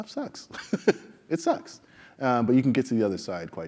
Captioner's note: laugh